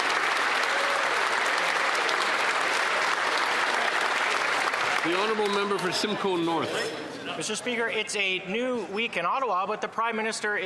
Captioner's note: applause